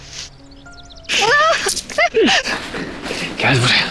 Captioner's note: laughter